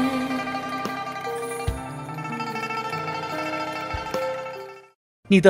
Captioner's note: bell Ringing